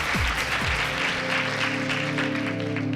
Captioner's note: cheering and applause